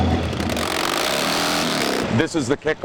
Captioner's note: motorcycle engines revving